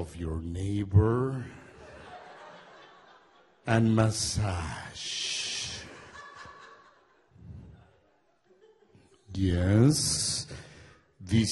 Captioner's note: audience laughs